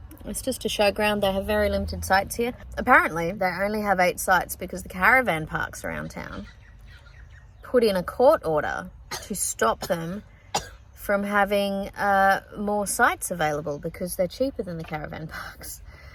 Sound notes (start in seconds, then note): 10.5 continues coughing